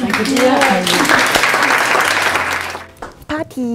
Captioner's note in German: Klatschen